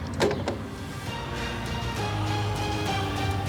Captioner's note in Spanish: sonido al colgar